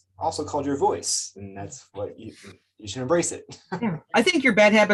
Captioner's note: laughs